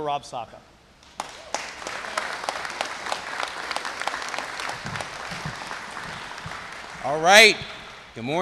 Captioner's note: applause